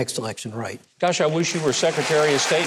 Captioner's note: audience claps